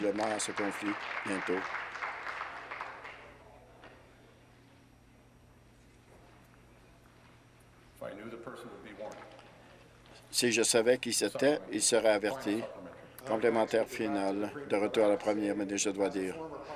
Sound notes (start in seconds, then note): 2.4 applause